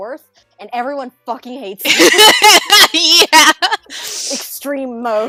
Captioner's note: laughter